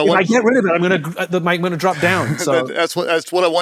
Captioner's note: chuckles